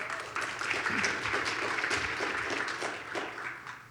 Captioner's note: audience applauds